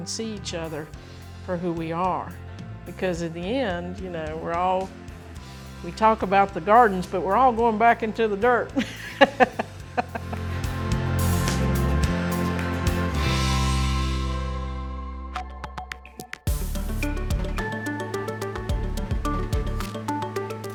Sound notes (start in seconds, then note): 8.7 laughing; 12.2 upbeat music